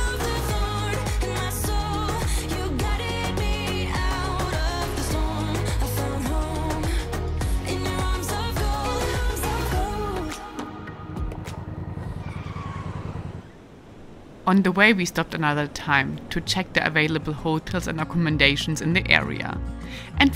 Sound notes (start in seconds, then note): 11.2 upbeat music; 11.8 brake screeches